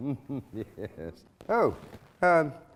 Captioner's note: laughing